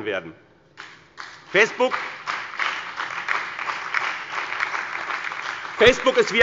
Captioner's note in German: Beifall bei dem BÜNDNIS 90/DIE GRÜNEN und der CDU